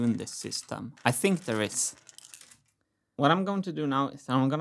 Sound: marbles rolling

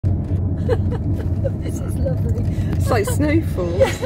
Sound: laughing

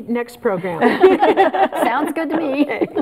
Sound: all laughing

